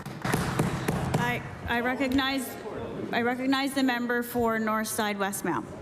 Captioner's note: applause